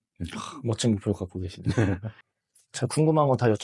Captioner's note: laughs